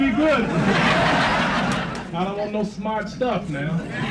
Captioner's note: crowd laughs